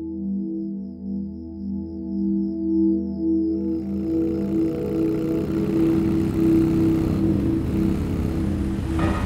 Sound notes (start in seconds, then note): 3.6 engine rumbling